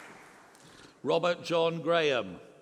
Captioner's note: applause